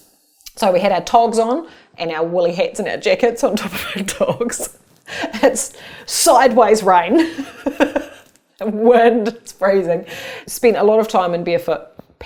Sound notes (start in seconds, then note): 7.3 laughs